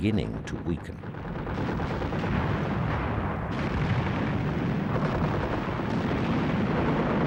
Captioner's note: explosions; gunfire